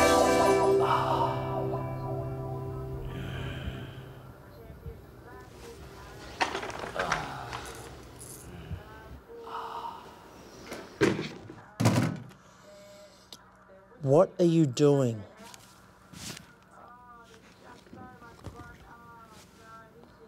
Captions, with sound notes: [moaning] [tv on in the background / cricket commentary] What are you doing?